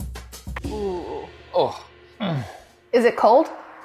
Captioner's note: jazzy music; grunting and groaning